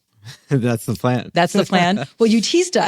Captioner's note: laughs; laughs